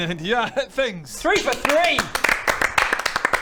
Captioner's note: applause